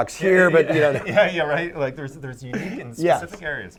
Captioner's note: laughing